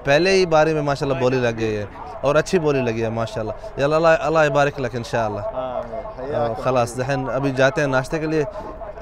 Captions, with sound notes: Bidding has started on the first one And a good bid has been made [Arabic] Now we are going to have breakfast